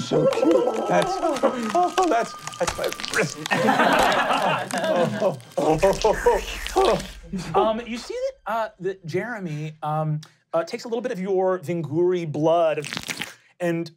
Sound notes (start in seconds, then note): 1.5 trilling; 2.2 crying; 2.2 slobbering; 13.2 slobbering